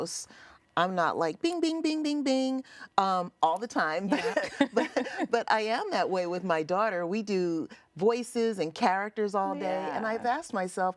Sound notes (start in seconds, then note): 4.1 laughs; 4.1 interviewer laughs